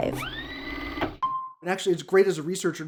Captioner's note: tape motor spinning